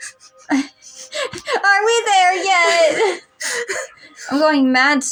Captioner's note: chuckle; giggle; childish Voice; giggle